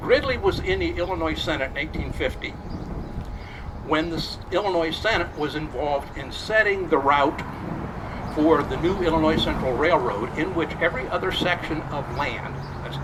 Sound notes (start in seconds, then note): none